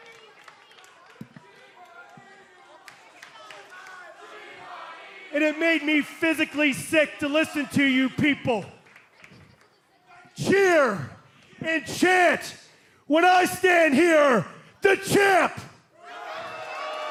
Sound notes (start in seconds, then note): 0.2 crowd response; 3.2 fans chanting